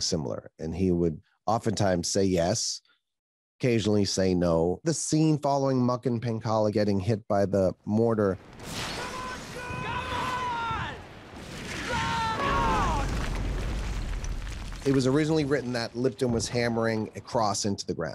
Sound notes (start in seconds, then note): 8.8 yells; 11.4 explosion; 11.7 soldiers scream